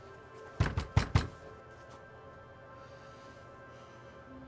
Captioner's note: knocking on door